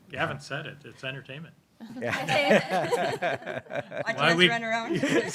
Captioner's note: everybody laughing